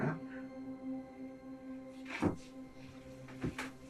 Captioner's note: rapid heart beat